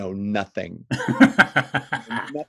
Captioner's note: laughs